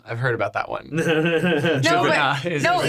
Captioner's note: laughing